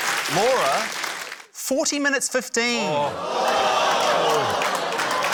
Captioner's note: applause; audience exclaims, applauds